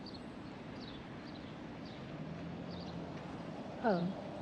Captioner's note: birds chirping